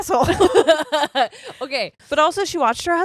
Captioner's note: all laughing